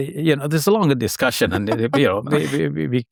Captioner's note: chuckling